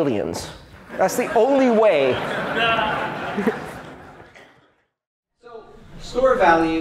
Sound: laughter

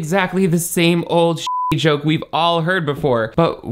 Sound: beep

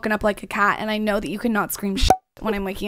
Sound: popping

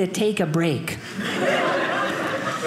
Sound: audience laughing

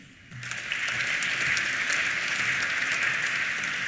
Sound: applause

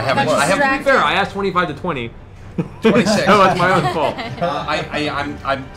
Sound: laughs

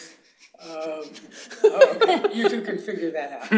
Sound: laughter

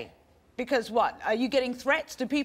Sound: none

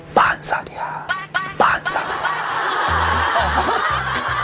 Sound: whispering that she's 40

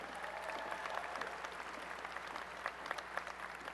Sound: applause

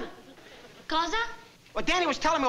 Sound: italian

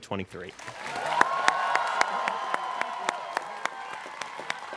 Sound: students cheering

